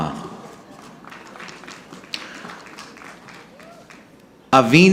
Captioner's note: audience clapping